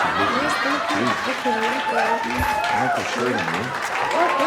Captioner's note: audience cheers